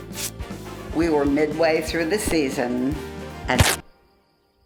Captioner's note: upbeat music; pat; tearing, then silence